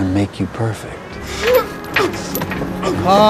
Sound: whimpering

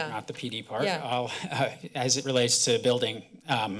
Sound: chuckles

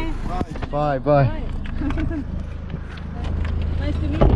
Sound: laughing

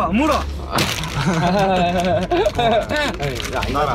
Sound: awkward laugh

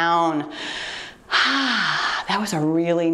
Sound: exhales

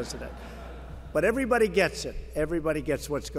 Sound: laughter

